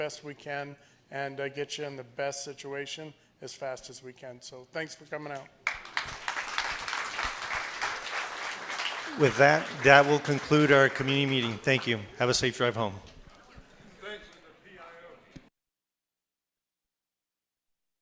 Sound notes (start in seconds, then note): 5.6 applause